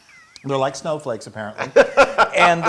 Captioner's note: laugh